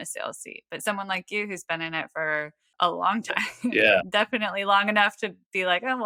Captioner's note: <laugh> yeah